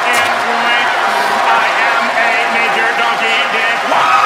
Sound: laughs; robot voice

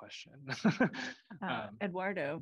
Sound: laughter

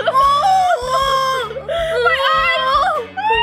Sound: girls squeal

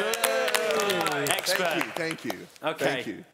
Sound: applauding

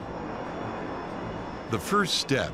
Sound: plane whooshing

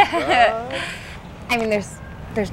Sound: laughs

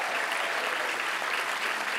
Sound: graduates cheer and applaud

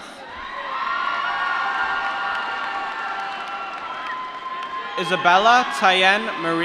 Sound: applause

